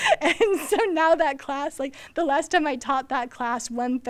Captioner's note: laughs